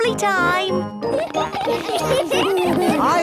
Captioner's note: laughter